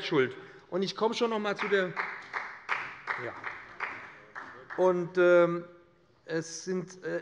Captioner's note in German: Beifall bei dem BÜNDNIS 90/DIE GRÜNEN und der CDU